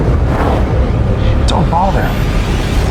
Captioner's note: mysterious roaring